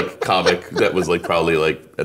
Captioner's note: laughing